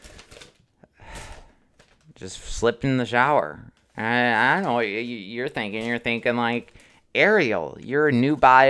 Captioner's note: sighs